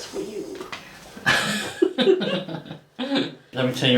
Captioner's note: both laugh